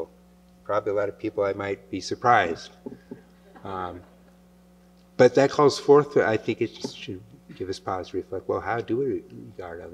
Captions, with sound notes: Probably a lot of people I might be surprised. [laughter] But that calls forth-- I think it should give us pause, reflect, well, how do we regard others?